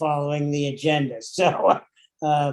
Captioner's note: laughing